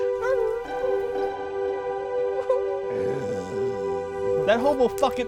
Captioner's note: dog whimpering